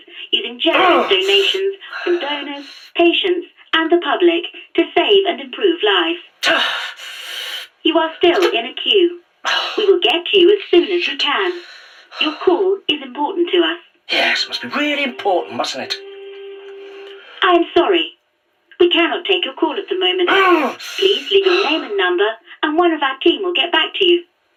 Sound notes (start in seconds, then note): 6.4 exasperated breath; 14.1 hold music; 17.4 hold music cuts abruptly